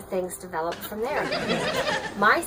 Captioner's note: laughing